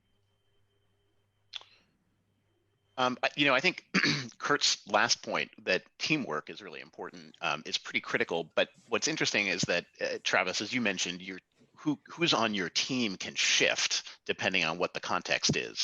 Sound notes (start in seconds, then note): 3.8 cough